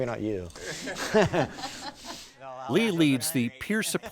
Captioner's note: laughing